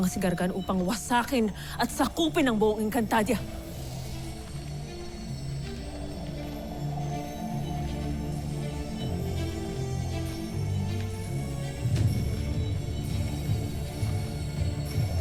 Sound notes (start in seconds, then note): 4.0 birds fluttering; 4.0 epic music playing